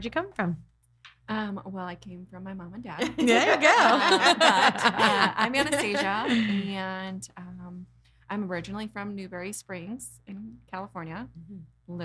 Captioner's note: laughing